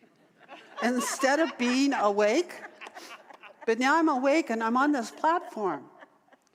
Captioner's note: audience laughter